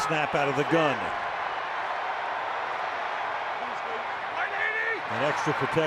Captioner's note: crowd cheering